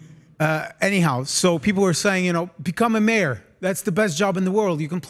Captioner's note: laugh